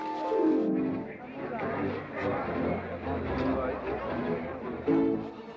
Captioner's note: amused crowd noises